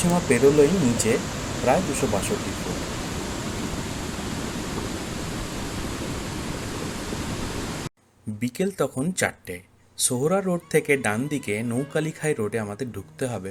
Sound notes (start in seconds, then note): 4.3 sound of Nature